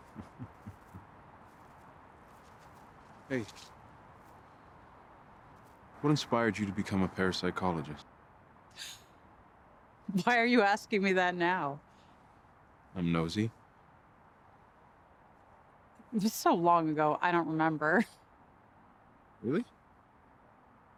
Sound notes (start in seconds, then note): 0.0 laughing; 8.8 chuckles